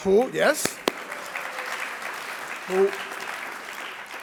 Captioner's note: audience clapping